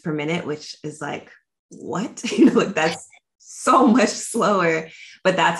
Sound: chuckles

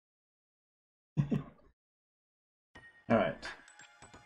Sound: chuckles

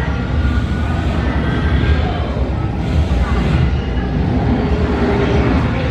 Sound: hyper space portal rumbling

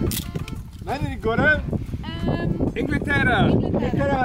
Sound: man speaking Turkish

